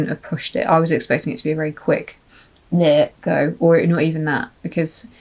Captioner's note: sniff